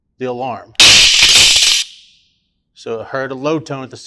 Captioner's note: alarm sounding